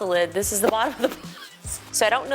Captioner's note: laughing